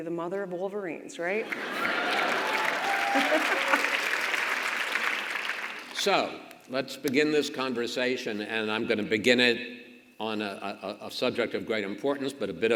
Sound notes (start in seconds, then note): 1.4 audience laughs and claps; 2.8 governor laughs